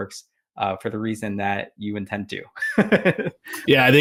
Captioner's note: laughs